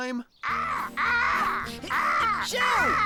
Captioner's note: cawing